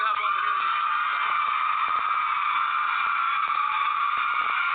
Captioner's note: crowd cheering